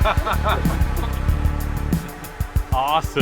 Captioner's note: laughter